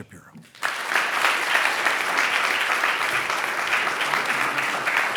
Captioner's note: audience applauding